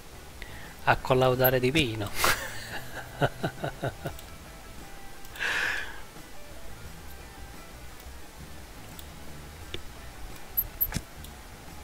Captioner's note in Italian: Risate